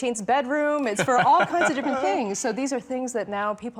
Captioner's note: laughs